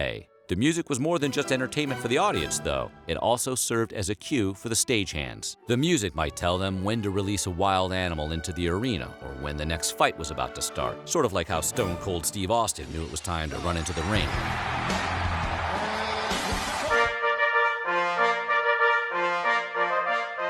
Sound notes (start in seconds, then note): 14.0 applause